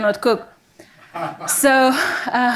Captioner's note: audience members laughing